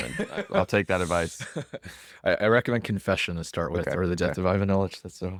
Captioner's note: laughs